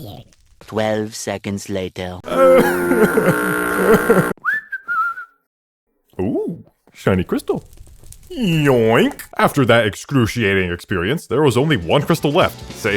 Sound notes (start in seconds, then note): 2.2 crying; 4.3 whistling